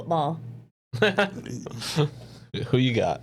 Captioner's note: laughing